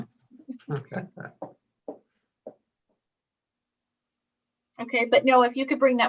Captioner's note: laughing